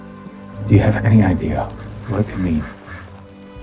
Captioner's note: voiceover